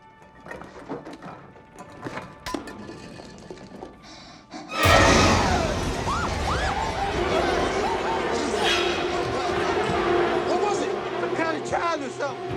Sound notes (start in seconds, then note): 0.2 liquid sloshing; 0.6 jars clattering; 4.1 oxygen exhaling; 4.6 dramatic music; 4.8 Bigelow screams; 4.8 all screaming; 4.9 dramatic music